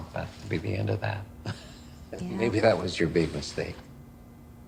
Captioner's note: chuckles